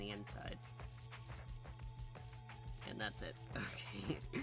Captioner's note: laughs